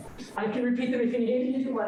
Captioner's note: giggles